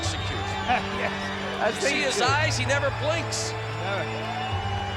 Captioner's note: laugh